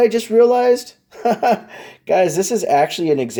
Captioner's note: laughs